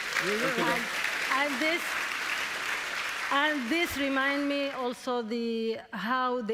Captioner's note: applause